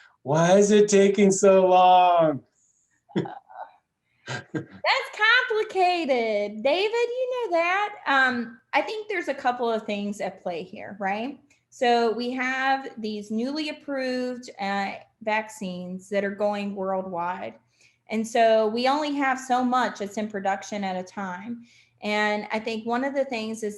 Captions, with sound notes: - Why is it taking so long? (laughs) (laughs) - That's complicated, David, you know that? I think there's a couple of things at play here, right? So, we have these newly approved vaccines that are going worldwide. And so, we only have so much it's in production at a time. And I think one of the things